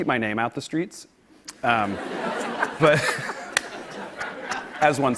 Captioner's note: laughter